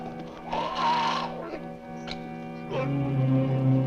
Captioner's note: horse whinnies; man groans